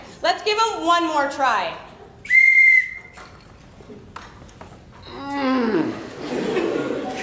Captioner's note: whistle